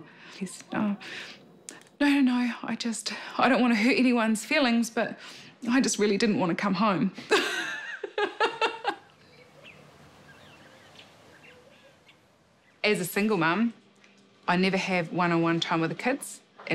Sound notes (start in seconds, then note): 7.2 guffaws